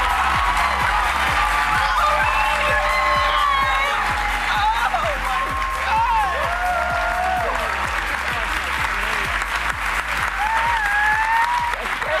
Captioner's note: cheers and applause